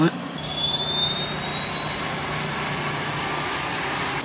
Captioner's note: blades whirring